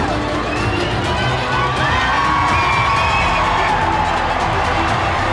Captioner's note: crowd cheers